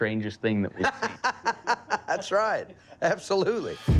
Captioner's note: laughs